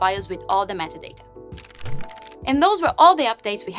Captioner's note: fluttering